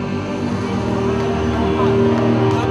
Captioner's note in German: Unruhe, Rufe